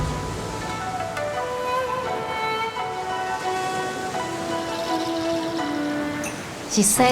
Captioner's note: soft gentle music; waves sloshing